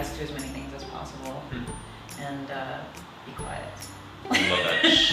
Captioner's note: laughs